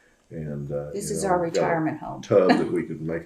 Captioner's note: laughs